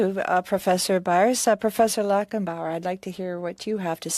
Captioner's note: speaking French